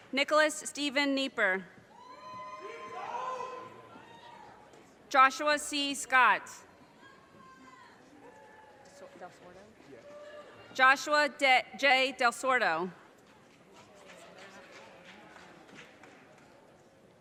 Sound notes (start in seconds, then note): 2.0 audience cheers and applause; 6.9 audience cheers; 13.8 audience applause